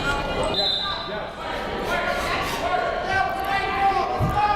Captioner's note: whistle blows